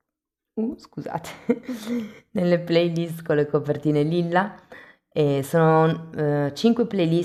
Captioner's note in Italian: risate